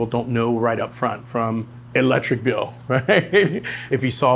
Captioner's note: chuckles